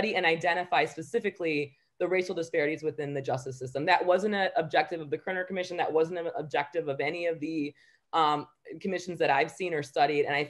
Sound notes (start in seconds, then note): none